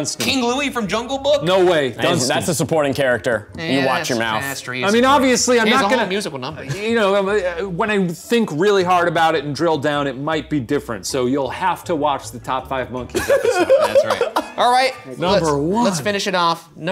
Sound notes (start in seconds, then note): 13.1 laughing